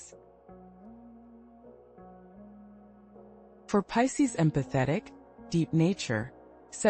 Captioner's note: pause